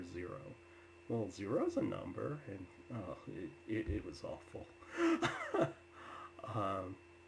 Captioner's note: laughs